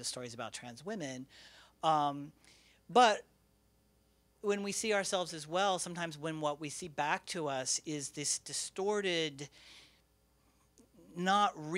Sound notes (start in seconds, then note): none